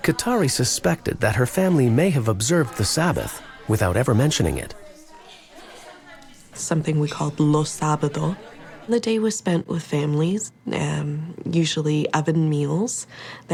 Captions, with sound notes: Cattari suspected that her family may have observed the Sabbath without ever mentioning it. - Something we call (speaks in foreign language). The day was spent with families, usually oven meals